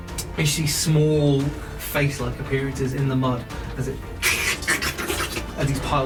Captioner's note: slurping noises